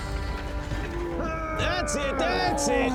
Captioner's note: grunt